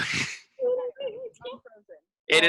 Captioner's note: laughing